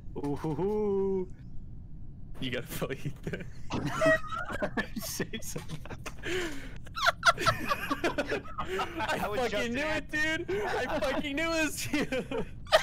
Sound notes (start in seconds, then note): 3.0 laughing; 5.5 laughter; 10.4 laughing